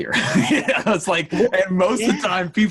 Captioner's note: laughing